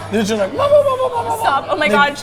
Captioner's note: laughing; mimics clucking